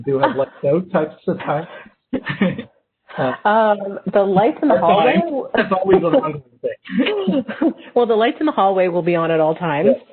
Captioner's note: laughs